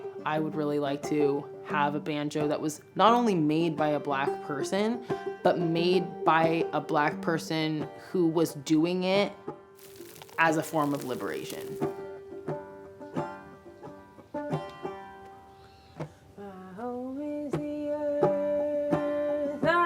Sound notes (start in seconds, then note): 9.8 gravel sifts